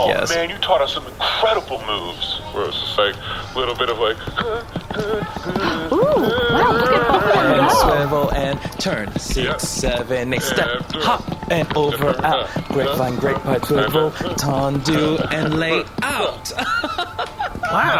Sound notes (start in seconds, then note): 3.8 vocalizing and tapping; 16.4 laughs